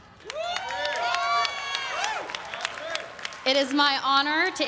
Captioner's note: everyone cheering and applauding